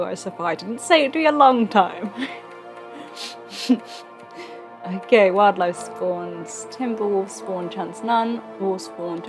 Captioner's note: laughs